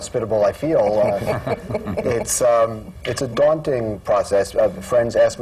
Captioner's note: laughter